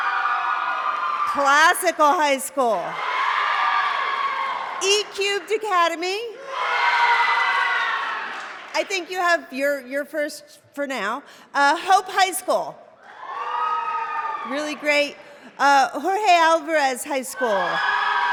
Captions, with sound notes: [CHEERING] Classical High School. [CHEERING] E-Cubed Academy. [CHEERING] I think you have-- you're first for now. Hope High School. [CHEERING] Really great. Jorge Alvarez High School.